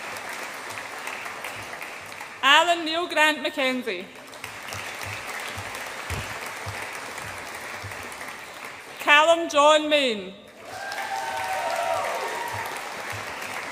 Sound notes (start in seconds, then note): 0.0 audience applauds and cheers; 4.2 audience applauds; 10.5 audience applauds and cheers